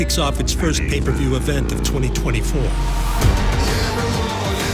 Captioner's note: dirt bikes engine revving; man singing